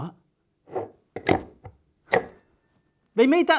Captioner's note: metal clanking